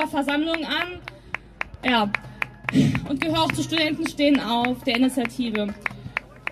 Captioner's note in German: eine person klatscht